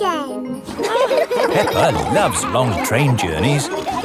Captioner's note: laughing